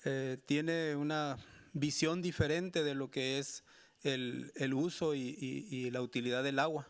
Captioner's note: speaking Spanish continues